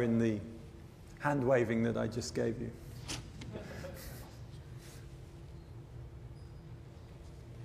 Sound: laughter

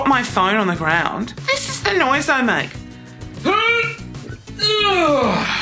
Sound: grunts

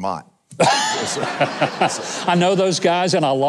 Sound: audience laughing

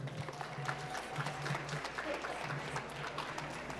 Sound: applause

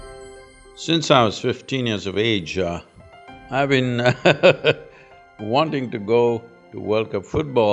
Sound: laughs

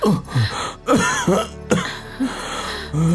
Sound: groans; coughs

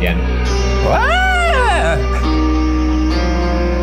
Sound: screams; dramatically ominous music

